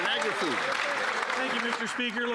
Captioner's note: some Applause